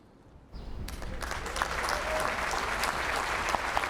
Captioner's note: applause